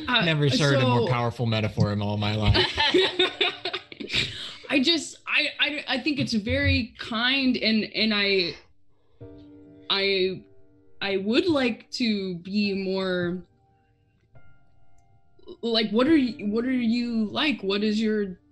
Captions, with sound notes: - I never heard a more powerful metaphor in all my life. (group laughs) - I just, I think it's very kind, and I would like to be more, like, what are you like?